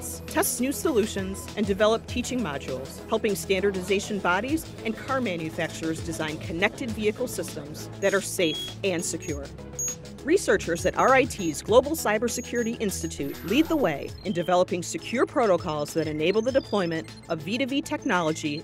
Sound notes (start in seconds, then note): 9.7 computer beeps